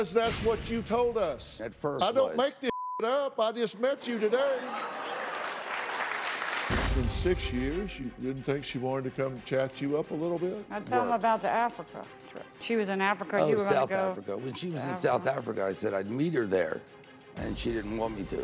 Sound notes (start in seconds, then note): 4.6 applause